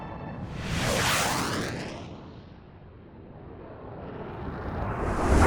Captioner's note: jet aircraft roaring